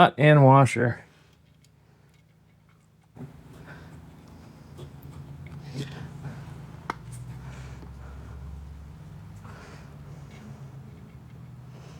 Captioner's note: clanking